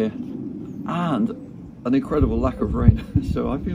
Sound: chuckles

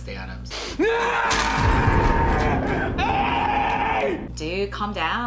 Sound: screams

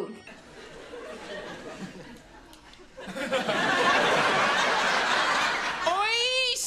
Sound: laughs

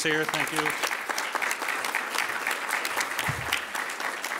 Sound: audience applauds

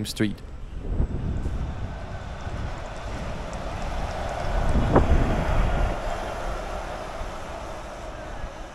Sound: electric bus noise

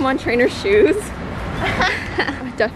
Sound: laughs

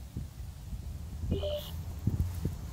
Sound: sonic screwdriver chirps

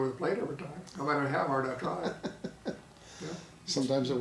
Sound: laughing

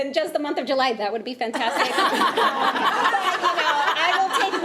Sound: attendees laughing

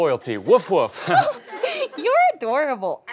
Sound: giggles

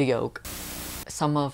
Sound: Static

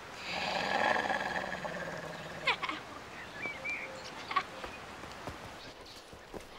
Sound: dog snarling; girls laughing

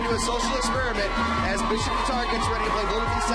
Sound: cheers and applause

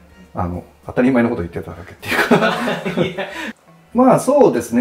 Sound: laughing

